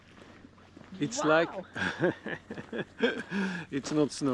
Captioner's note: laughing